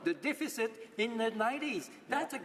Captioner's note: speaking French